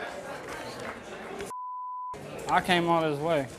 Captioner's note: beep